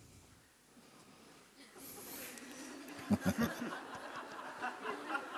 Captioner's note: laughter